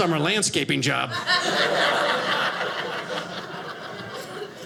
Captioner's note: audience laughing